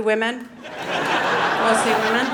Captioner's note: audience laughing